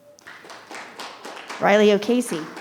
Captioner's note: audience claps